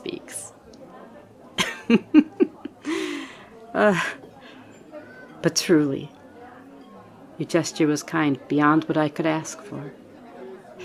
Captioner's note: laugh